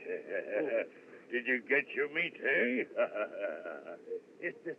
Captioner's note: chuckles; chuckles